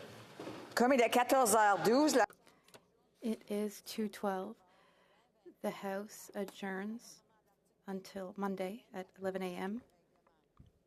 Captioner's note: speaking French